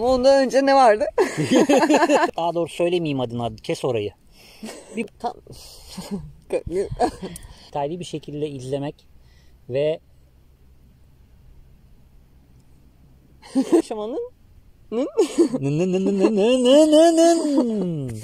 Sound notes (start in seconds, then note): 10.0 silence